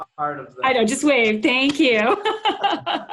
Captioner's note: laughs